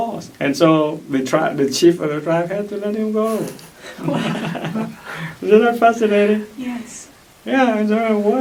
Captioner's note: laugh